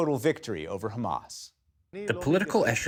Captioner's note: through translator